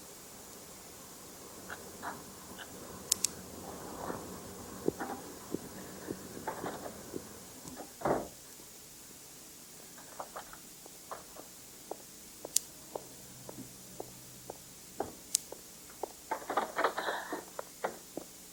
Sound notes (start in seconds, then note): 7.7 door closes; 11.5 footsteps